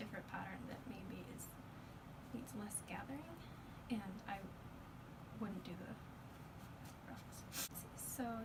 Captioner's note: fabric rustling